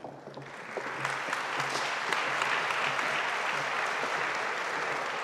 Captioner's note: audience applauding